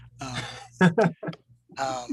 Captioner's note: laughs